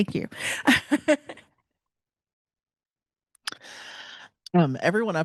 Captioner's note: panelist laughing